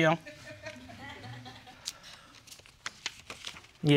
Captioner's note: audience laughs